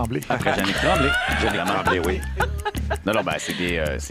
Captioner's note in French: rires